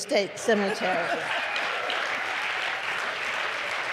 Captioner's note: applause